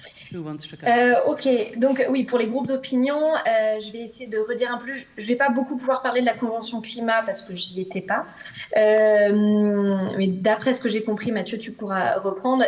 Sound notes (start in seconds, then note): 1.4 speaks French